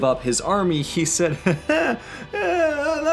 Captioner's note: mocking chuckle